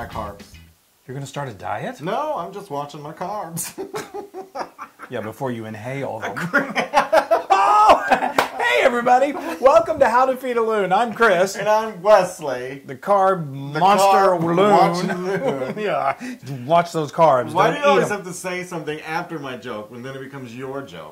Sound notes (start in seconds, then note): 3.5 laugh